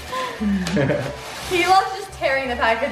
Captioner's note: laughing